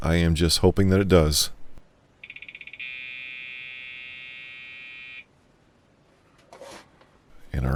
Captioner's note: Memory counting sound from PC Speaker